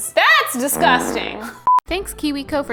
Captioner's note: farting